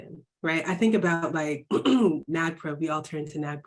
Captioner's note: clear throat